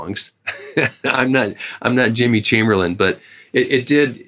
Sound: laughter

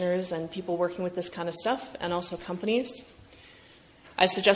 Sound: none

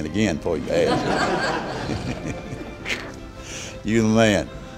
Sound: laughter

